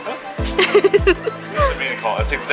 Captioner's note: laughing